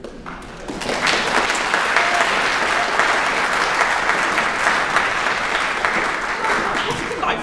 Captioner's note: applause